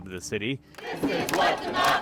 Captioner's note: chanting